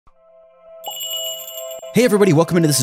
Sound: magical jingle

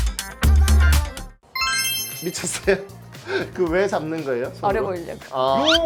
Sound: laughter

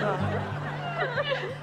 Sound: crying

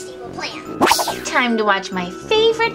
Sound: transition whooshing

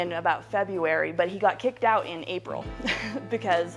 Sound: chuckling

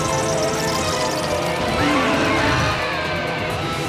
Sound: roaring

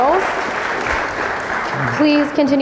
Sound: audience clapping

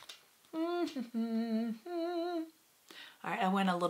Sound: hamming

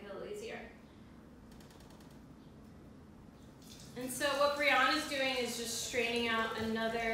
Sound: pouring

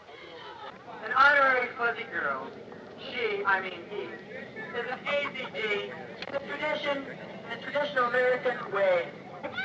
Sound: man speaking through megaphone

